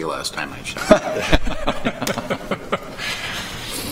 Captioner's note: laughter